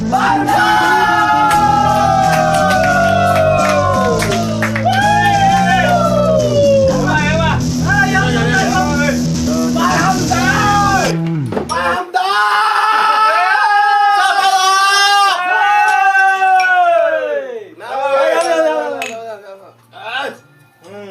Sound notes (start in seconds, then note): 11.8 screams